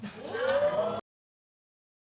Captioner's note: audience exclaims